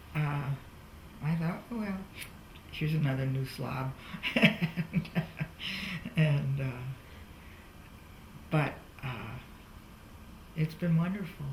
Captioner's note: laughs